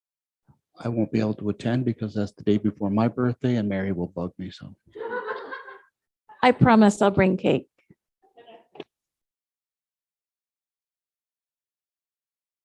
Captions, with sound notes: - I won't be able to attend because that's the day before my birthday and Mary will bug me, so... (all laughing) - I promise I'll bring cake. (lady chuckling)